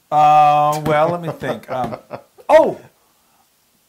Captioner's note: laugh